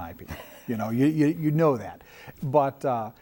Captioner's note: laughing